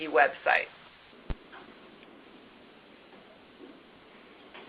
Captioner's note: silence